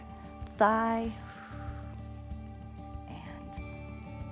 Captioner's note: exhales